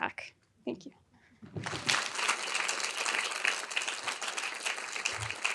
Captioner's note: audience applauding